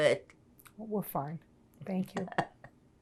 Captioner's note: laughing